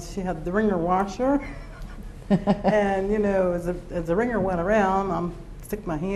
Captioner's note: laughs